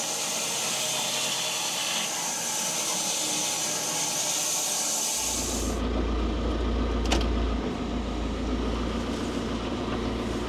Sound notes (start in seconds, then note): 5.9 engine humming